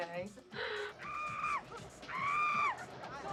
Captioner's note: screaming